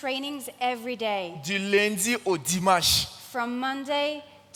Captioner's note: continues in French